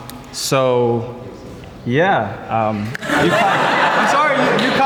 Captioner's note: group laughs